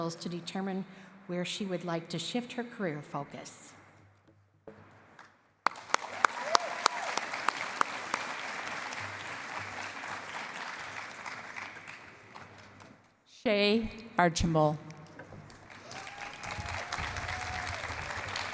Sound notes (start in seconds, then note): 5.6 applause; 15.6 cheering and applause